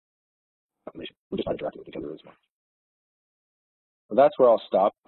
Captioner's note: audio distorts